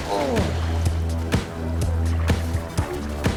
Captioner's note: grunting